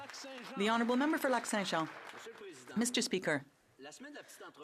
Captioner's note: some Applause